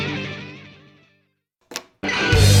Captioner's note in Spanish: clic